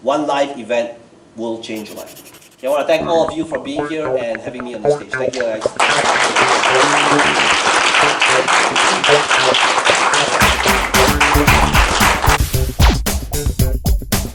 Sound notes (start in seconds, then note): 1.8 upbeat music; 5.2 audience applauds; 10.4 upbeat music